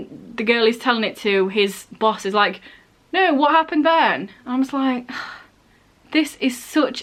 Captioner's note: sigh